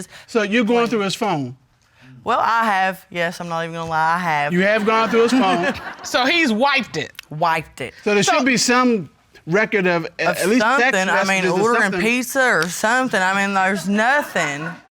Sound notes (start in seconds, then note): 4.1 laughs